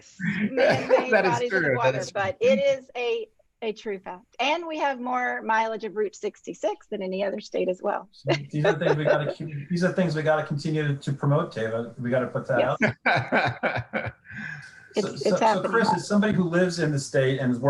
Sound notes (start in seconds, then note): 13.0 laughing